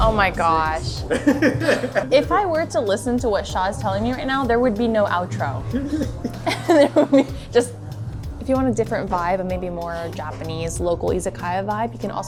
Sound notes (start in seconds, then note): 1.0 laughs; 5.7 laughs; 5.7 chuckles